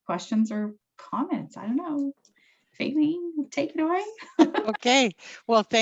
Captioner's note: chuckles